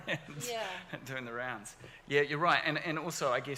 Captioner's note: laughs